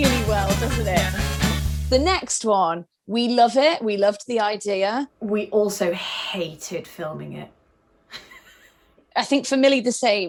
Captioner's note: laughs